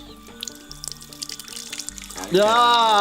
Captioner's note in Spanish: salpicaduras de agua